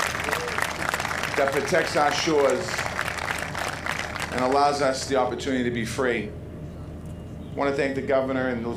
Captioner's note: applause